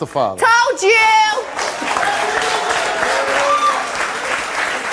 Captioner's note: audience applauds